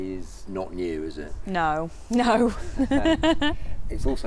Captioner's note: laughs